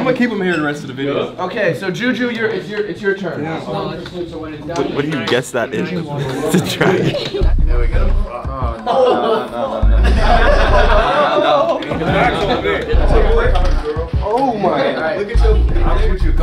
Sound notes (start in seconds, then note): 7.7 laughs; 8.8 all laugh